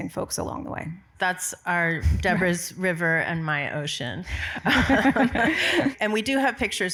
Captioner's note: laughs